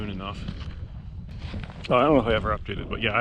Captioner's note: footsteps thumping